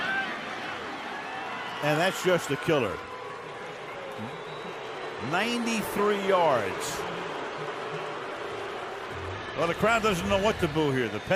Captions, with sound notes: And that's just a killer. [booing] 93 yards. Well, the crowd doesn't know what